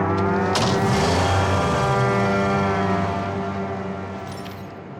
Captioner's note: car door slams